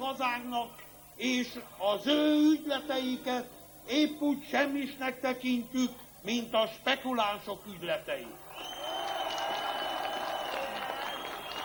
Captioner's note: cheers